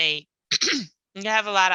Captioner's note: clears throat